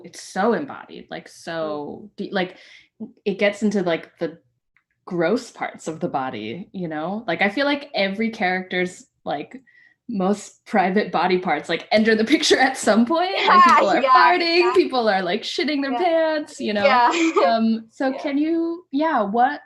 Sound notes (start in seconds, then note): 17.0 laughter